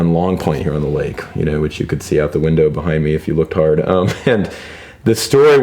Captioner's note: laughs